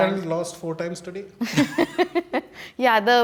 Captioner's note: laughs